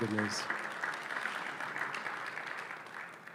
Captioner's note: applause